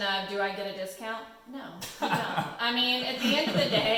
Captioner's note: laughing